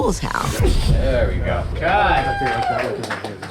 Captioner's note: crew cheering